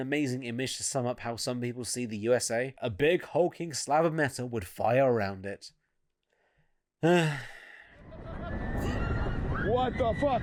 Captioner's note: sighs